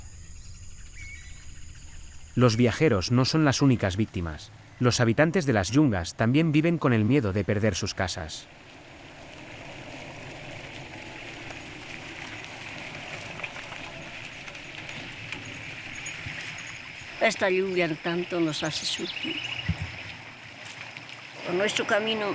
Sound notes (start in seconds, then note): 0.9 birds chirping; 10.6 engine rumbling; 17.6 speaking in foreign language